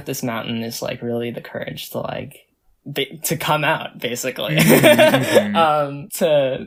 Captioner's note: laughs